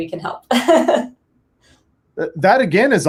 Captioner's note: laughs